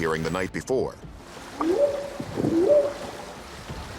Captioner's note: whooping sound